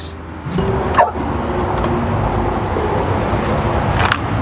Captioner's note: dog barks